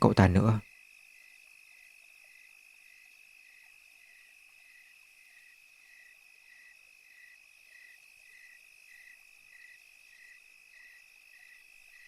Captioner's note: crickets chirping